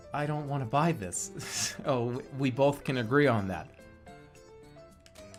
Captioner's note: giggling